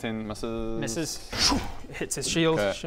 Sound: schoom

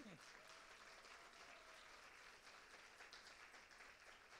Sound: applause

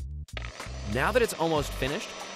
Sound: whirring

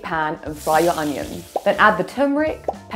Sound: onions sizzle

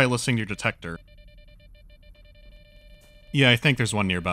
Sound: beeping of the detector speeds up

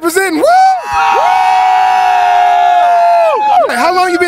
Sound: background cheering

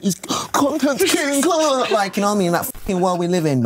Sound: excited garbling

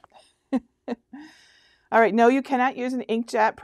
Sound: chuckles

